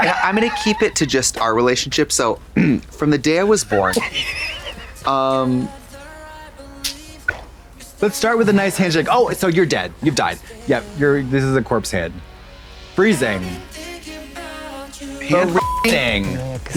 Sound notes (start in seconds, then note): 4.3 Katya bursts and bangs; 15.2 beep